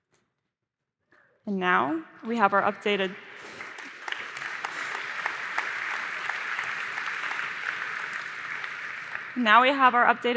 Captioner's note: applause